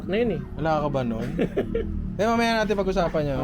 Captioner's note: laughs